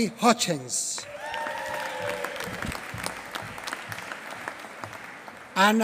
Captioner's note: applause